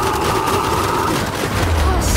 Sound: distant explosion

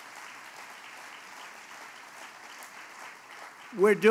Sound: applause

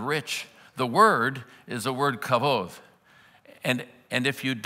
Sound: foreign language

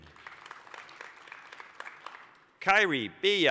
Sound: applause

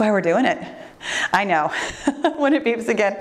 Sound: laughs

